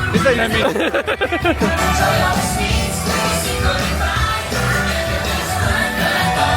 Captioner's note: laughing; upbeat music continues